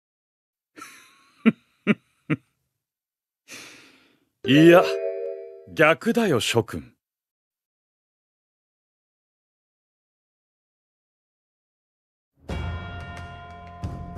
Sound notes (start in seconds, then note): 2.3 laughs